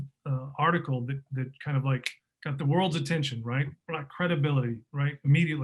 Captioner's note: fingers snapping